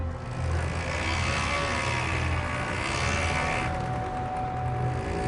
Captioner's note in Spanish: Ruido de las motos